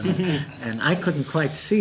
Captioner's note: laughter